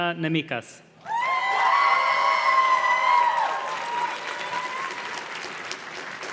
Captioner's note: audience cheers and claps